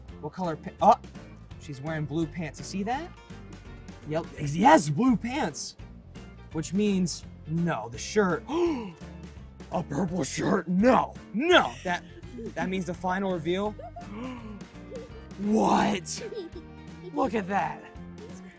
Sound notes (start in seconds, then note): 8.5 gasp; 14.2 gasp